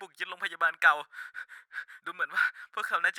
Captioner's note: breathing.asmr